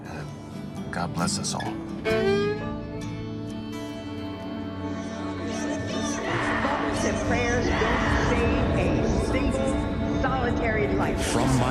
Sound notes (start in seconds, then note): 4.6 tranquil music; 5.6 students shouting